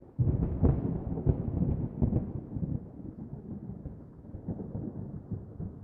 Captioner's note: thunder